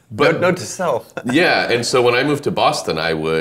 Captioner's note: laughing